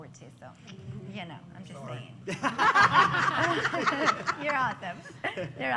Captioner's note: laughter